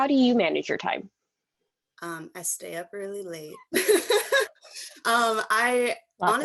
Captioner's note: laughter